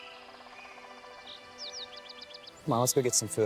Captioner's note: birds chirping